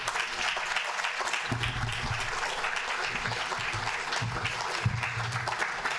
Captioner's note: audience applauding